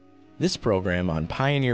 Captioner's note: voiceover